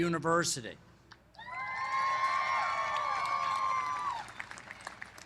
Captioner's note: cheering